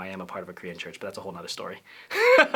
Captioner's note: laughter